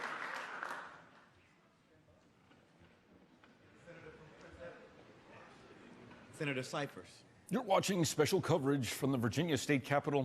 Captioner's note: applause